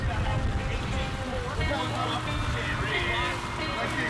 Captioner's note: chatter; guitar music